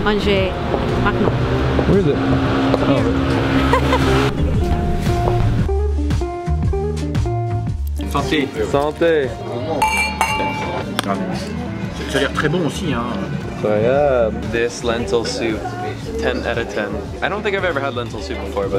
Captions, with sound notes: Where is is? - Here. (laughs) (jazzy music) (speaking foreign language) (clinking) (speaking foreign language) - This lentil soup, 10 out of 10 I don't think I've ever had lentil soup before